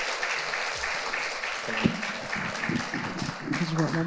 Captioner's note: audience applauding